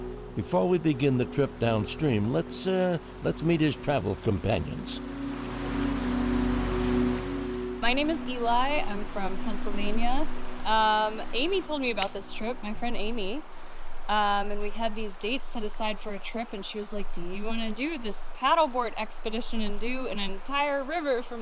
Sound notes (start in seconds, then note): 0.0 water rushing; 5.2 rushing water intensifies